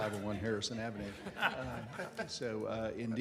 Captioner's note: laughter